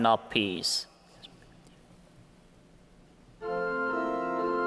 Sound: whispering; organ playing

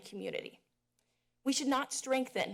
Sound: pause

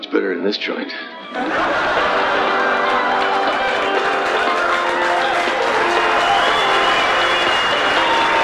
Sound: laughing and applause

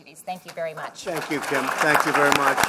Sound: applause

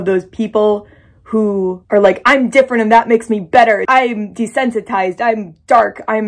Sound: incel voice

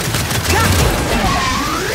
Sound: gunfire

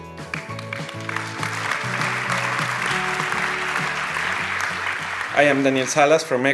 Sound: applause

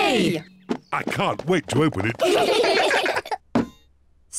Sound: all giggle

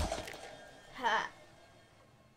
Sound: croak-sorta noise

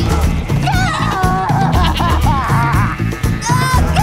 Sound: crying

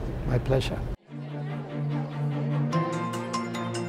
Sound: people talking; upbeat music

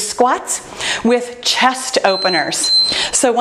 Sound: timer beeps

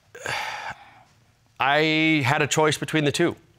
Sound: sighs

